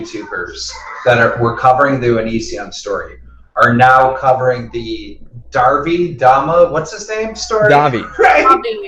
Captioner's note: laughs